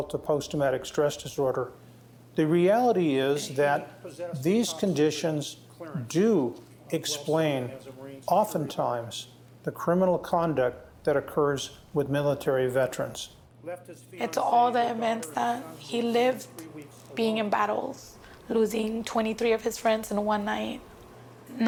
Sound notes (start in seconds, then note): 5.0 speaking faintly; 13.5 speaking faintly